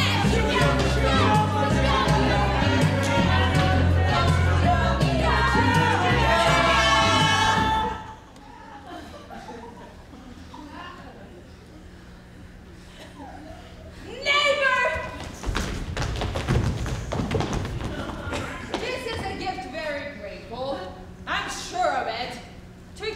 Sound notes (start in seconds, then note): 2.0 everyone mumbling at once; 8.4 audience laughs